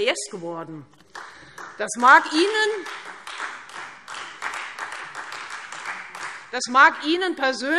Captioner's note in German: Beifall Freie Demokraten